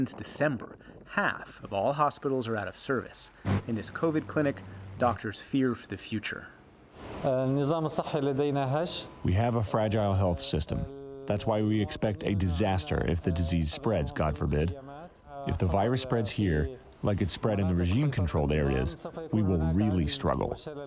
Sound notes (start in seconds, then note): 9.0 through translator